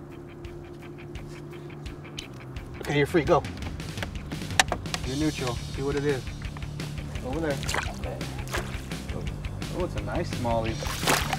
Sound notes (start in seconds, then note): 7.4 fish splashing